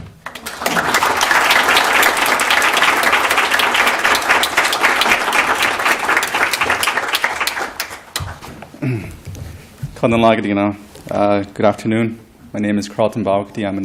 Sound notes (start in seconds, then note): 0.2 applause; 9.7 non-english speech